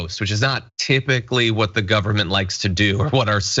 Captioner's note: laugh